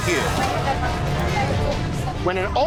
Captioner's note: chatter